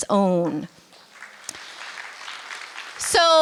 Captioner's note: applause